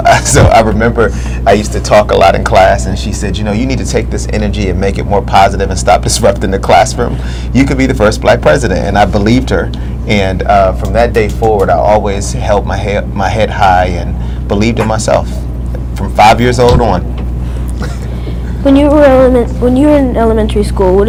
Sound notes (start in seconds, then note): 0.0 laughs; 17.8 laughter in background